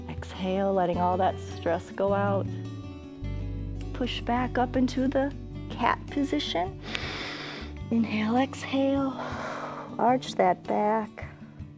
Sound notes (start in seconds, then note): 6.8 inhales; 6.8 exhales